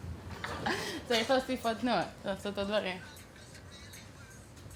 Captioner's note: speaking foreign language